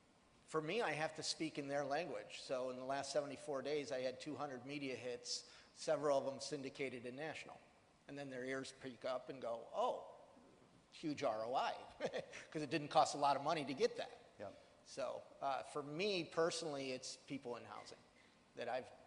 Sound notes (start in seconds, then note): 11.8 chuckles